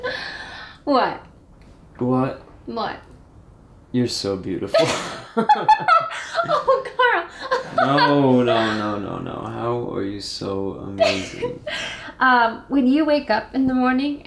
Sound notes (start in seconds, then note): 4.7 emma bashfully laughs